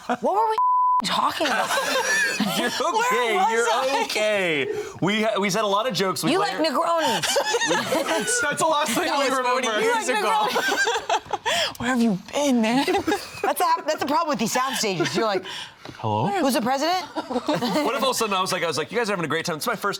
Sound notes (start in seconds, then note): 0.0 all laughing; 0.6 beep; 6.3 all laughing; 11.3 laughs